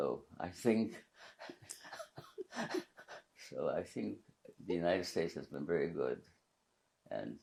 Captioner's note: laughing